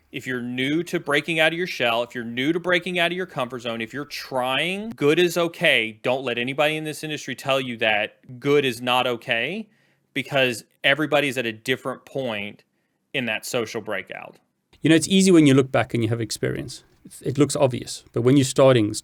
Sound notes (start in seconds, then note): none